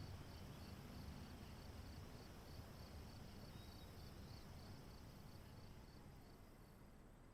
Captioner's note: crickets chirping